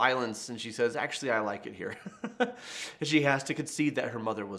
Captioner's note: laughing